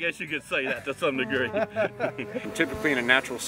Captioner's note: laughter